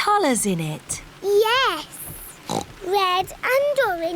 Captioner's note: oinks